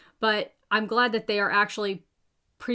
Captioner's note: none